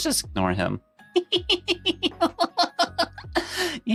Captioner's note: laughter